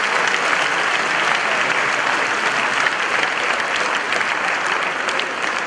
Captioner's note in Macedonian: аплауз